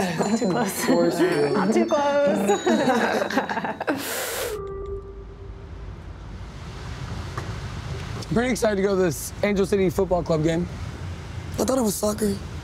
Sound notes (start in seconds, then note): 2.3 laughs